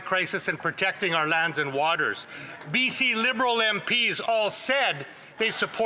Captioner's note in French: voix de l'interprète